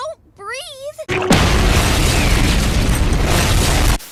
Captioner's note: explodes, turns off